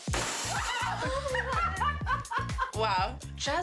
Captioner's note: laughs